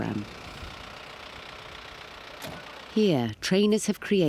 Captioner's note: engine idling